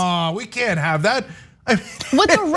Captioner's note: laugh